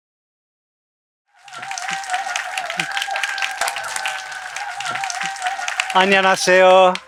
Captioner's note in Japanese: 拍手と歓声